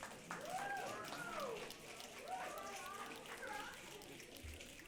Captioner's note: audience clapping and cheering